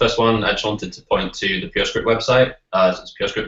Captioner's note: none